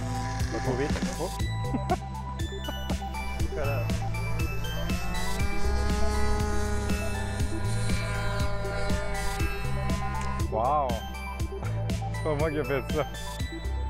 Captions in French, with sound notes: Pas trop vite, oh! (rire) (bruit de moteur à hélice) - Wow! C'est pas moi qui a fait ça.